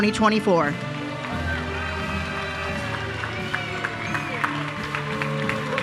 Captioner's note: attendees cheering